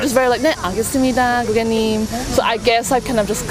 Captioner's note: speaking in Korean